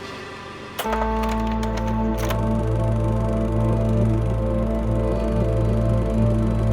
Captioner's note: pensive music; film reel clacking